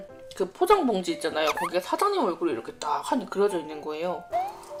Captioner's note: huHuHu